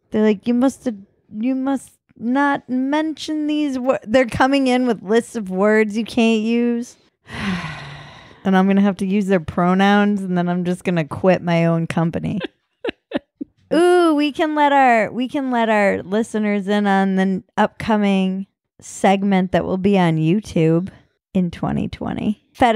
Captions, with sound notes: They're like, "You must not mention these..." They're coming in with lists of words you can't use. (sighs) And I'm gonna have to use their pronouns and then I'm just gonna quit my own company. (laughing) Ooh, we can let our listeners in on the upcoming segment that will be on YouTube in 2020,